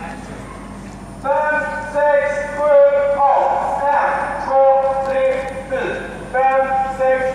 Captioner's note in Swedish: man i megafon